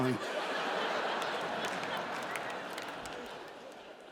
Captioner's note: audience laughing